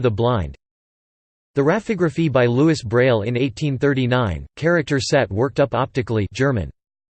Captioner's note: German